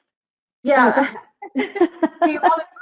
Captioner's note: both laugh